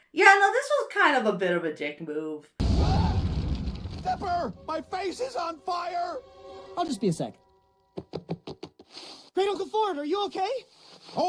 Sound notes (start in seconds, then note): 2.6 everyone shouts; 2.6 shack rumbles